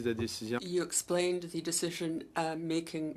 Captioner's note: speaking French